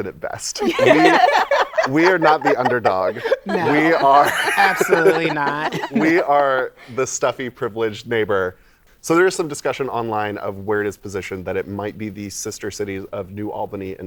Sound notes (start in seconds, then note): 0.6 laughter